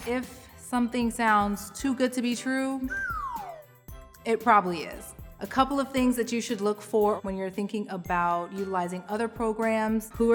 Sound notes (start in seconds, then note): 2.8 person whistles